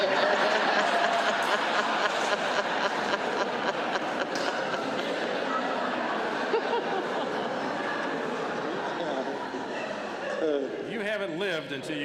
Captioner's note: laughter